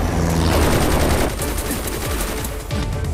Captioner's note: Rapid gunfire